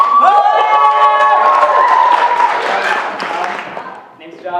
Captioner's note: cheering; applause